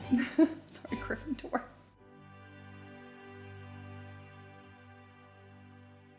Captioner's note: chuckles; calm orchestral music